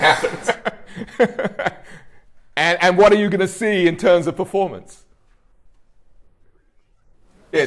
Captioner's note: laughs